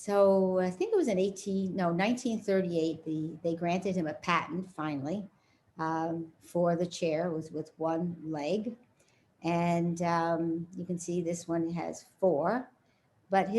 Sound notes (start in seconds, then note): none